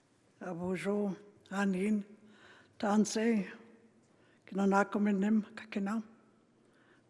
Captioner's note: speaking Indigenous language